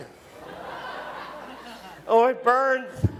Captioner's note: audience laughs